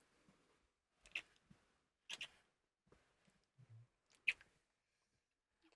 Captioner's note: kissing